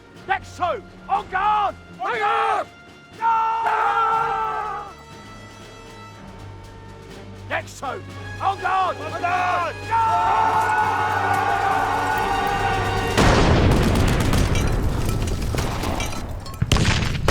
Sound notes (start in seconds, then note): 4.5 shouting; 10.5 shouting; 12.9 bombs exploding; 15.9 guns firing